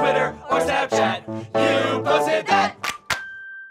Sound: clap Clap

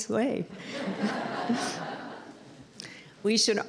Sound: laughter

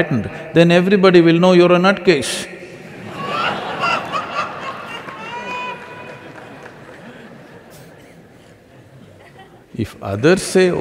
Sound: laughter

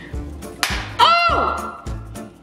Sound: egg shell cracks; yelling

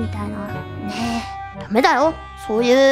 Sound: sighs

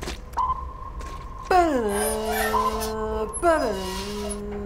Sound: continues humming

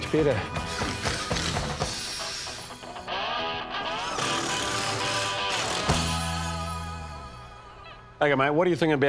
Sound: drill

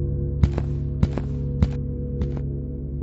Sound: footsteps

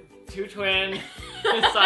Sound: laughs

